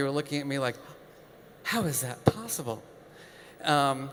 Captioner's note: gasps